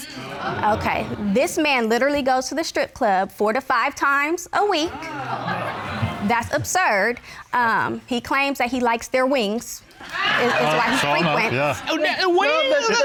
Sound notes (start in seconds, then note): 4.9 audience exclaims